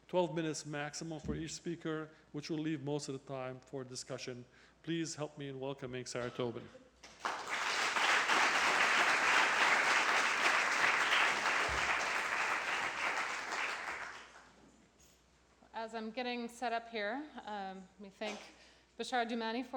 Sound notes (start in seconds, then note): 7.0 applause